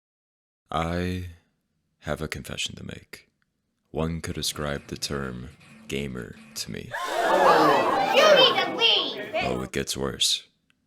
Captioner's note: audience gasps